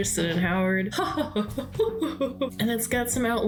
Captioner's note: haughty laughter